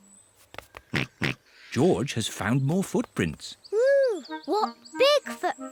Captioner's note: snorts